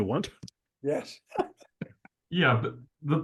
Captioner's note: laugh